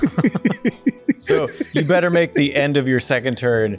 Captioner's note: laughs